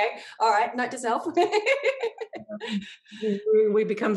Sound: laughs

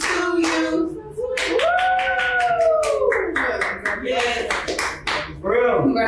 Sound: cheering and clapping

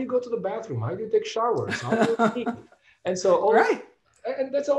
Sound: laughs

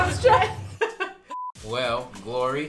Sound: electronic beep; laughing

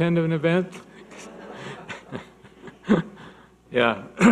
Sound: audience laughing

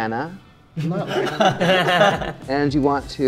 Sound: laughing

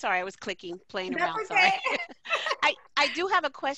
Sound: laughter

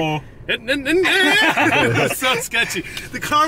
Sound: imitates car noises; laughing

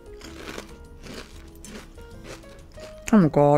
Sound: cereal crunching

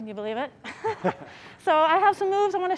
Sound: laughs

